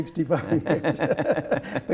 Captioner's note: laughter